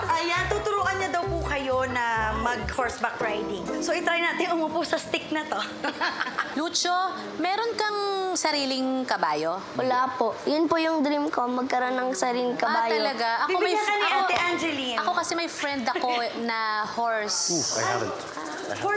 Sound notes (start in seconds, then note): 5.6 chuckles